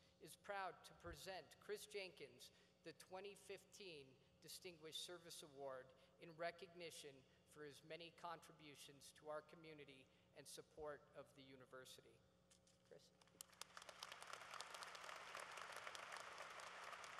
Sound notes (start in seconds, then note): 13.2 applause